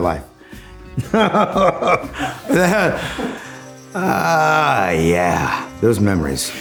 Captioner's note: laughs